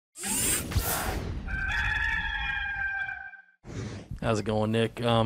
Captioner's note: cock crows